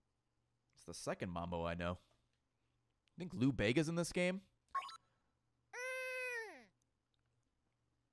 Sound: baby noise

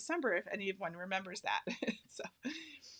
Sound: laughing

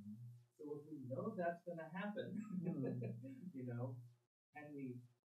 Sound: laughs

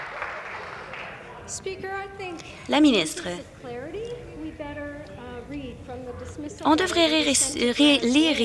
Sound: some Applause

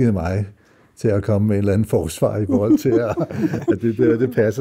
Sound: laughs

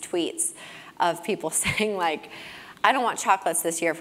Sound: laugh

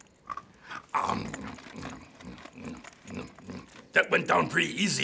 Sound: Cookie Monster munching; cookie crunching

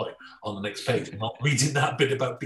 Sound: laughing

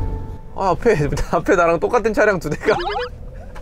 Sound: laughing out loud

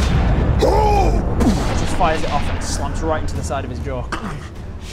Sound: boom; crrck

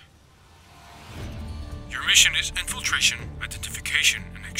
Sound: none

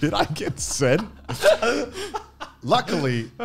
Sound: laughing

